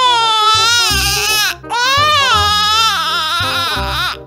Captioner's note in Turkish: ağladı